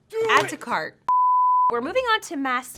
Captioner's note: beep